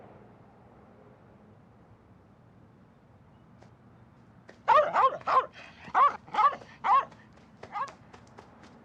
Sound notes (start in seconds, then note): 4.6 dog barking